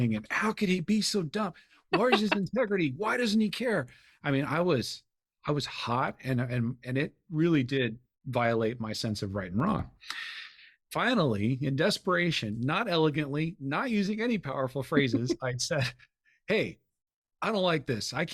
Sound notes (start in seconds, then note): 1.9 chuckling